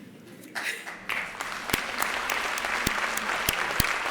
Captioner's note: applause